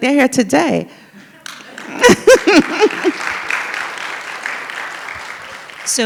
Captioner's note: laughs and audience applauds